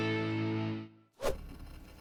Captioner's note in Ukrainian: вжух